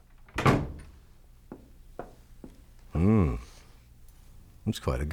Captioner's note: door closes